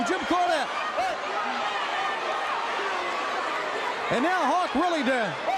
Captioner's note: crowd cheering